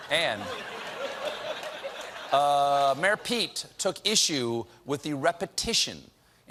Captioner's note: laughter